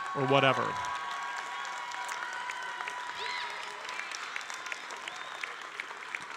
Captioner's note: audience cheering and applauding